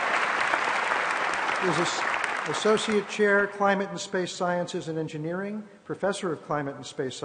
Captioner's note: applause